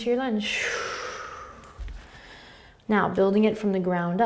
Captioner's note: exhaling